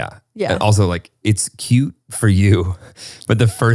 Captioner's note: laughs